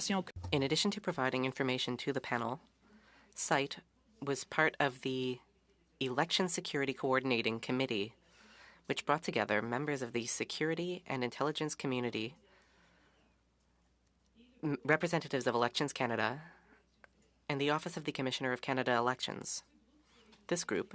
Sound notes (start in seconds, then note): 5.5 speaking French